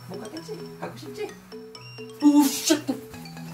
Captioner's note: beeping